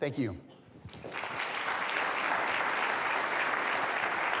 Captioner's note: audience applauding